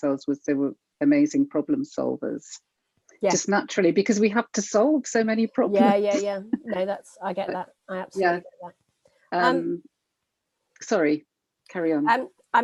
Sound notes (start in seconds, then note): 5.7 laughing